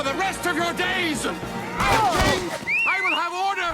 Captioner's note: whistles